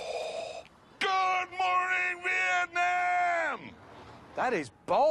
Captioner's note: yells